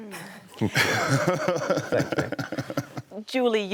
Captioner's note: laughs